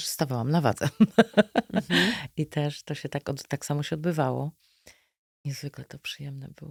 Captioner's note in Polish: śmiech